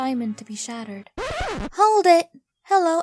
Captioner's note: record screech